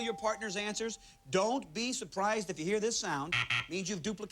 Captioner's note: buzzer